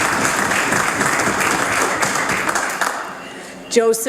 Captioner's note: some Applause